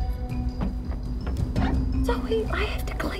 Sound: keys jingle; glass squeak

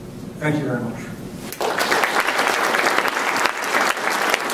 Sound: applause

